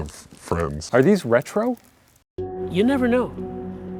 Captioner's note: voiceover